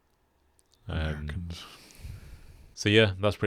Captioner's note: sighs